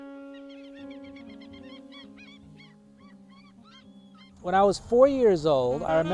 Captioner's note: birds calling